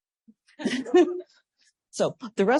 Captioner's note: laughter